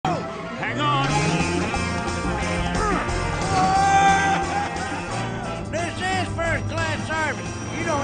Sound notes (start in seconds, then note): 1.0 grunts